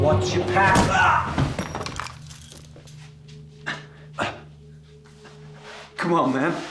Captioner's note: Terry screaming and thudding to the floor